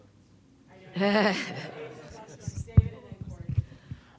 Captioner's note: laughing